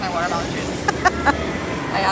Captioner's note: laughter